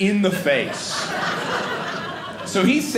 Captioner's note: audience laughing